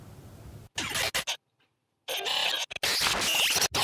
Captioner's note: audio jumping